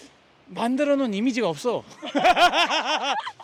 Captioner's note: haha